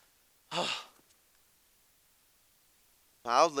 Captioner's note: messenger sighs